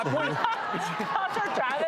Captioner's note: laughter